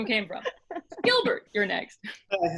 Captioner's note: laughing